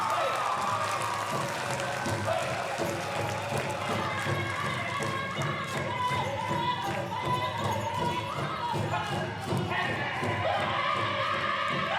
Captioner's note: loud cheering & applause